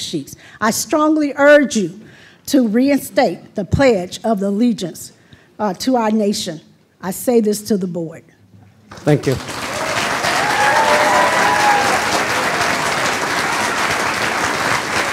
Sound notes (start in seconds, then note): 8.9 applause